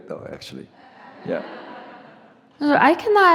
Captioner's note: audience laughs